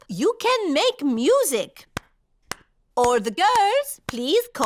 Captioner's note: clapping